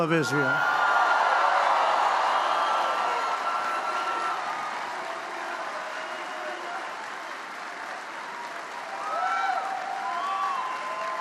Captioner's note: applause